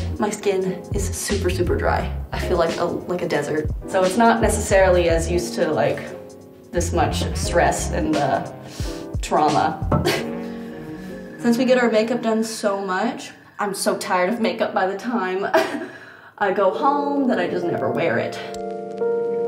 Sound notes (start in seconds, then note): 9.2 laughs; 15.8 laughs